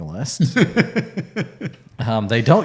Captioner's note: laughing